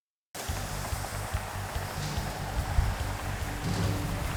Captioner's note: traffic droning